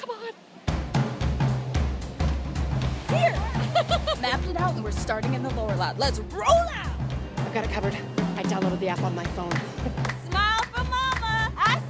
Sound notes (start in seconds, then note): 0.8 upbeat music; 3.1 laughs